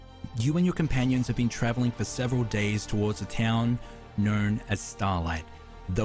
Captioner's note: none